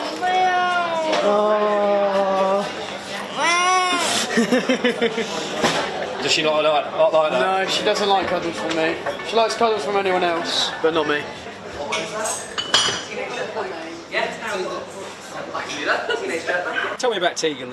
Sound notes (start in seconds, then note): 6.0 laughing